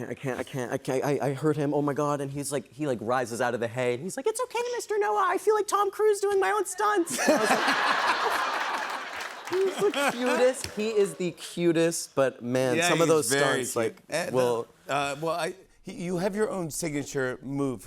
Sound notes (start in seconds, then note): 4.1 high-pitched voice; 7.1 laughter; 9.2 normal voice